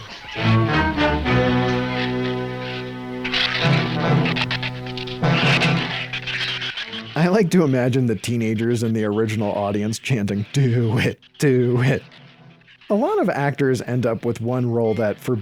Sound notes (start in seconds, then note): 0.2 suspenseful music continues; 3.8 shrews chattering